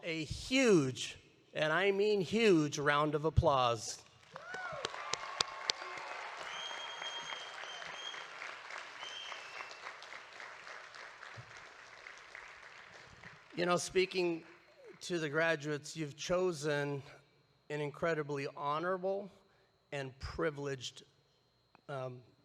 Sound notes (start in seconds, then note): 4.3 audience cheering